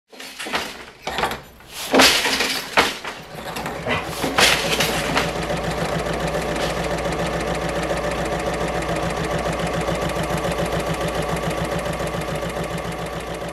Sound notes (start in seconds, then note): 5.0 sewing Machine Sounds